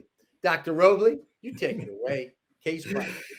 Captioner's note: chuckling